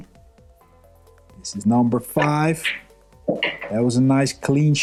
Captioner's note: balls clanging